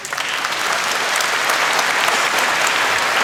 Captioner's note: applause